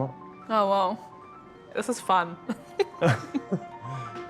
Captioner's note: giggles; chuckles